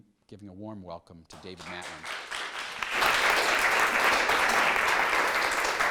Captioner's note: applauding